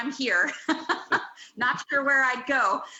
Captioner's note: laughs